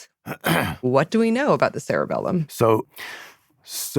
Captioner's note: clears throat